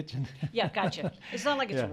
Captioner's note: laughs